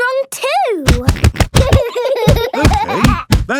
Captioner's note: banging